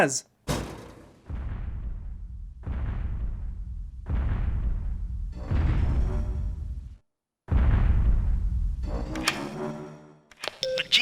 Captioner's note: rapidly approaching impact tremors; radio beeping